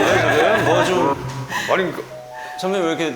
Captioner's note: chuckle